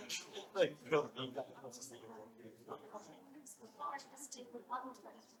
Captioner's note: audience continues chattering